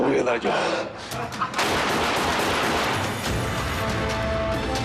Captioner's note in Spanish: Disparos